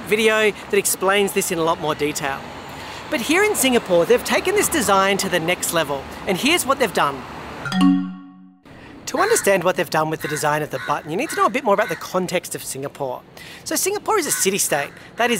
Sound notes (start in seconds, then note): 7.6 logo chiming